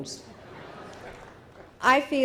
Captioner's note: audience laughing